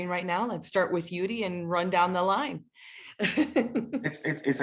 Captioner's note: laughs